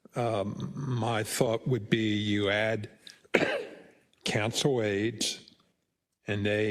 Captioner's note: cough